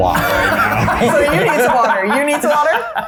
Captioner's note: everyone laughing